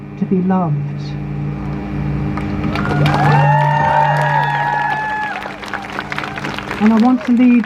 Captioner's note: crowd Cheers